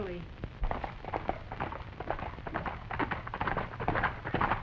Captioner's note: hooves clattering